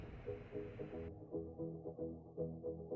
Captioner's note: beeping noise